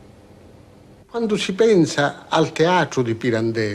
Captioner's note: speaking italian